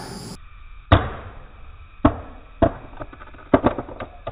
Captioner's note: slowed down thudding